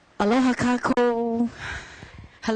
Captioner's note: foreign language